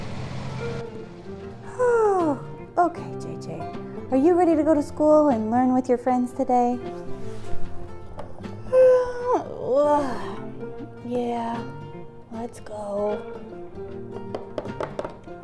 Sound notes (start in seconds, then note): 2.0 yawn; 9.7 big Yawn; 11.2 tired sounding